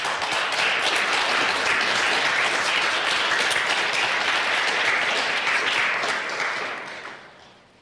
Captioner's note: applause